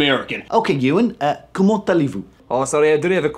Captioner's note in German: Französisch